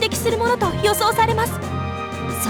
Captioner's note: none